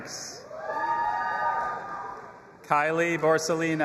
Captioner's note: audience applauding and cheering